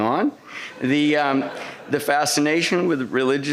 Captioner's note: laughter